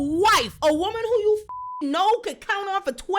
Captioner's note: beep